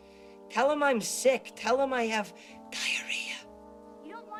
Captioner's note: whispers